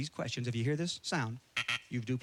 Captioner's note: buzzer